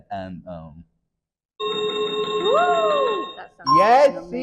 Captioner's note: chiming sound effect